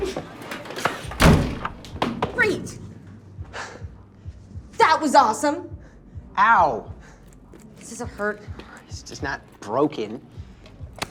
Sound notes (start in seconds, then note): 1.0 door slams